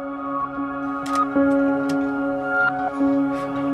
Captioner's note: camera clicking